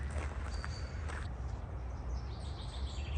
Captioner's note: birds chirping